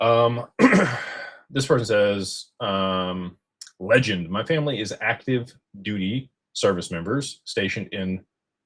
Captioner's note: clears throat